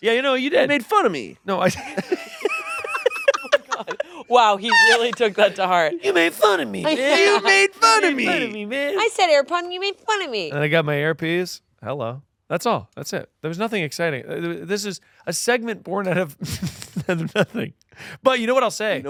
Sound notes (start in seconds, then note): 1.6 everyone laughing; 2.0 laughs